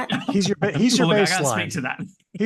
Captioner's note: laughs